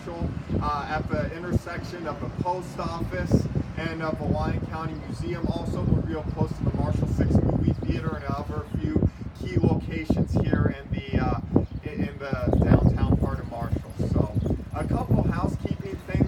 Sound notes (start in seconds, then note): 13.0 bike rider passes